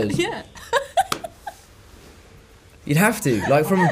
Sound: laughs

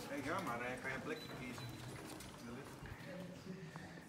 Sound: crowd chatting

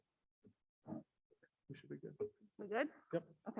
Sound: none

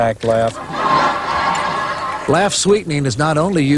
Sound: laughter

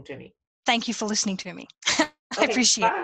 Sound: laughs

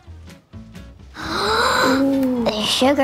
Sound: upbeat instrumental music; gasping

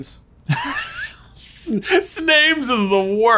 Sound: laughs

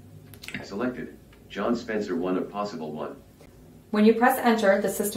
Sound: voiceover

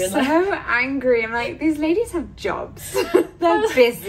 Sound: laughs

